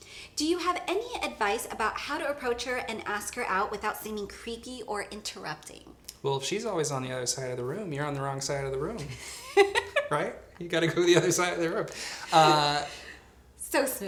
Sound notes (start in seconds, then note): 9.2 laughs